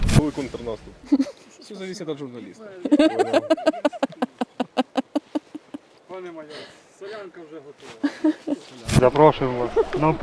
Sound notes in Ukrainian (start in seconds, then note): 2.8 сміх